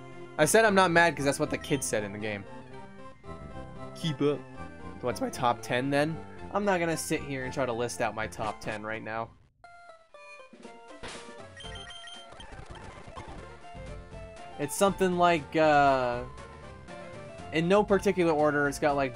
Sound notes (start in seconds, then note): 3.6 goofy mocking tone